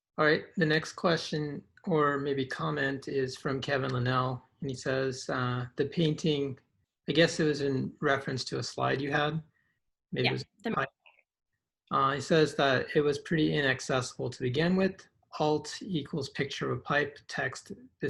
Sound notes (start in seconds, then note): 10.8 speaks faintly